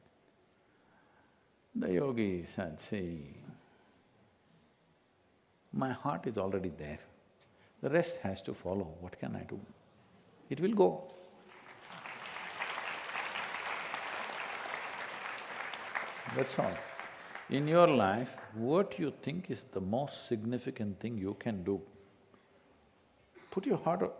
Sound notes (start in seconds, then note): 11.4 applause